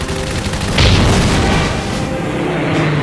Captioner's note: bomb explodes; plane engine roaring